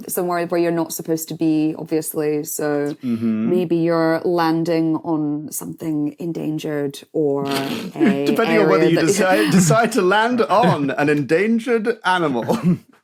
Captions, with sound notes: Somewhere where you're not supposed to be, obviously. So... Mhm. Maybe you're landing on something endangered, or a... (snorts) Depending on whether you decide to land on an endangered animal.